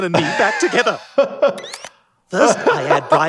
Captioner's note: laughing